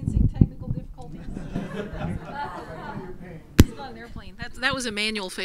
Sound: laugh

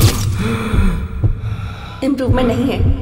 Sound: breathing heavily

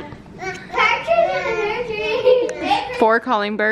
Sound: kids yelling

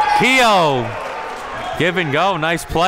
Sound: cheering and applauding

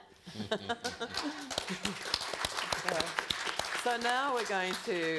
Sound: all clapping

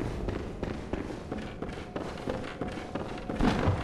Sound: none

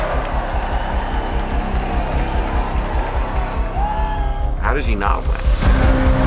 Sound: crowd cheering

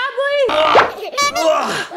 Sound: child laughing; person groaning

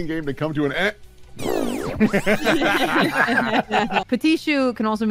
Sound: laughter

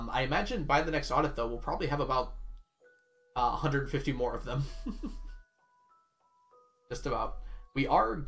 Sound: chuckles

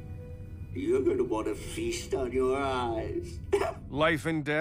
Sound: chuckles

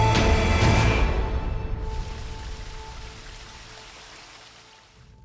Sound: water splattering

